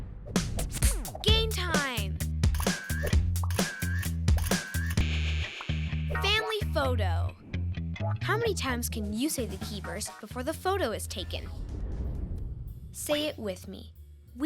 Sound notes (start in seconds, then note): 2.7 background camera shutters clicking